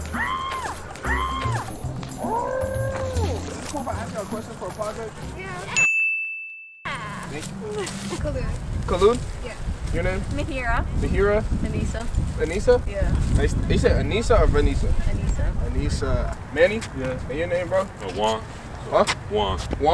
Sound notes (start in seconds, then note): 2.2 audible scream